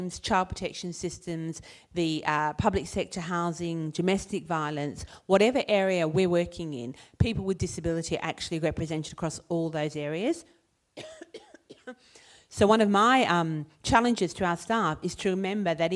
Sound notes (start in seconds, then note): 10.9 coughing